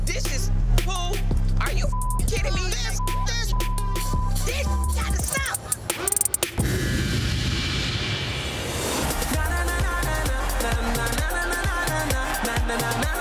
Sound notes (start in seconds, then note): 2.8 beep; 6.4 ominous music; 8.9 upbeat music